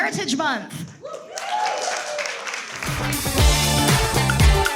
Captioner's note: everyone applauds and cheers; upbeat, exciting music